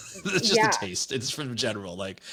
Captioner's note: laughs